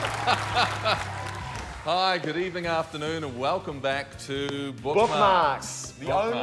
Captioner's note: laughs